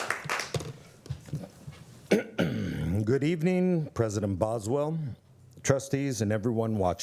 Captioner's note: applause